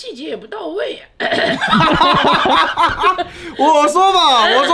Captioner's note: laughing